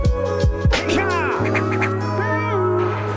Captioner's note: Metroid jump